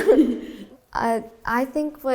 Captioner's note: laughing